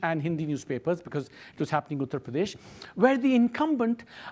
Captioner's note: speaks foreign language